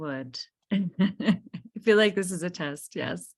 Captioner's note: laughing